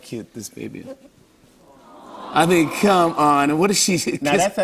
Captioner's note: audience "Aw"s